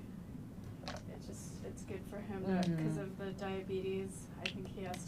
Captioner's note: mumbling